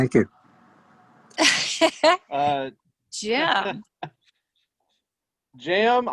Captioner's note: laughs